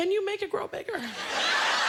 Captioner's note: laughter